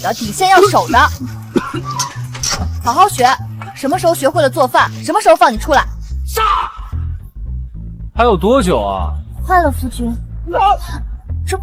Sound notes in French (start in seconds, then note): 1.2 Tousse